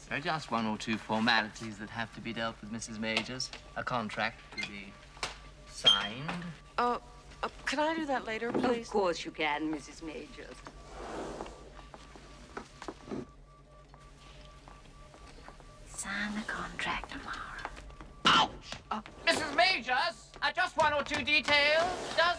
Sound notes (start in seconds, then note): 16.1 Шепотом